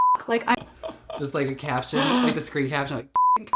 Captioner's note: laughs